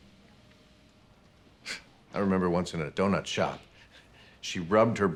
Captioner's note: scoffs